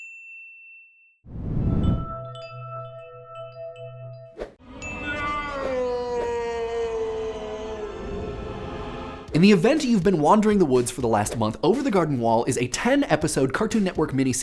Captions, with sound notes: [SCREAMING] In the event you've been wandering the woods for the last month, Over the Garden Wall is a 10 episode Cartoon Network mini